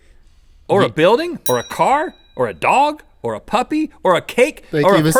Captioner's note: bell ding